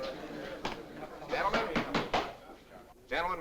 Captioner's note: raps on table